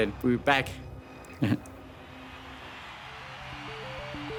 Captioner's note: chuckles